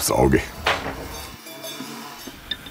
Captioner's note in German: Kuhglocken